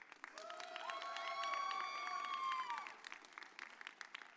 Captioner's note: audience cheers